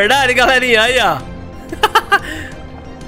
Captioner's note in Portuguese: risos